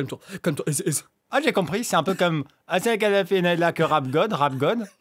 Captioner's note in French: parle en yaourt